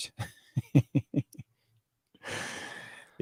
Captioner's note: laughs